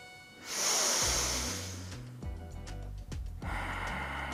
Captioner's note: breathes deeply